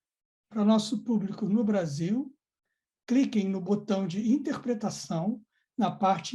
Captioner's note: speaking in foreign language